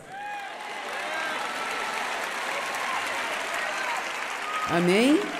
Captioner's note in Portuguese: plateia aplaudindo